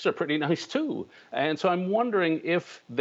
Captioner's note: laughter